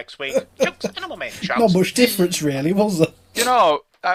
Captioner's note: laughing